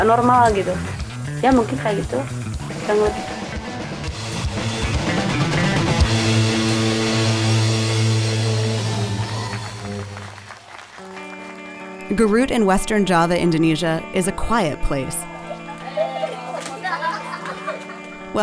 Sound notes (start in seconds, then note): 8.2 crowd applauding; 11.2 light music; 15.3 children giggling